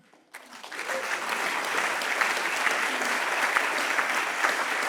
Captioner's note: audience clapping